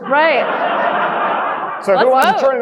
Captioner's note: audience laughing